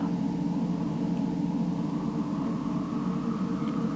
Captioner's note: wind gusting